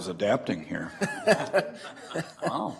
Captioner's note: laughing